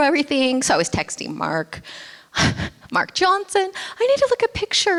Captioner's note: laughs